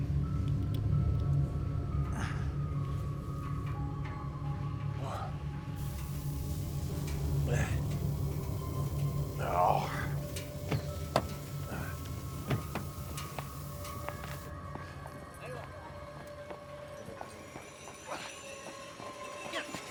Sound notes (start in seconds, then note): 2.6 Tector and Darlus groaning; 11.3 eerie music; 15.9 people chattering faintly